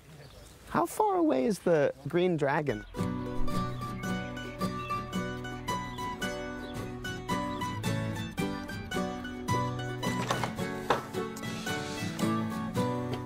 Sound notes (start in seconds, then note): none